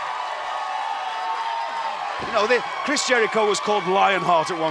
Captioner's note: crowd cheering